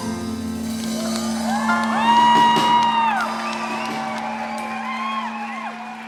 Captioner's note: cheering and applause